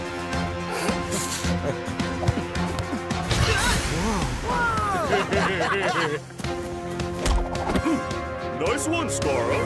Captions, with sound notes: (chuckling) - Ahh! - Whoa! - Whoa! (laughing) (grunting) - Nice one, Skarra.